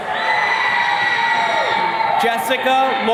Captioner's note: attendees cheering